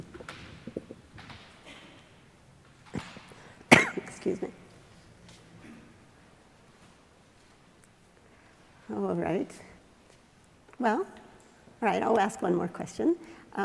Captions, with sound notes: (coughing) Excuse me. All right. Well, all right, I'll ask one more question.